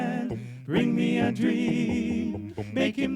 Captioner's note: low bass voice